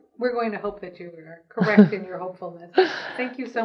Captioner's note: laughs